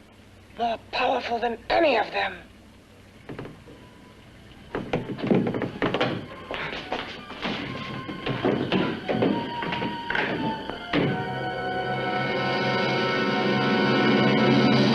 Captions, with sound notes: More powerful than any of them. (anticipatory music) (door creaking)